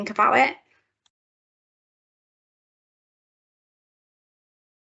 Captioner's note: silence